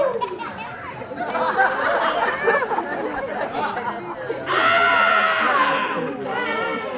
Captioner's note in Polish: śmiech